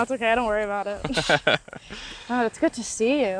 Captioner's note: both laugh